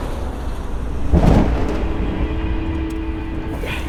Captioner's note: rolling thunder